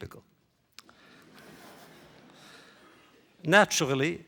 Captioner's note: laughter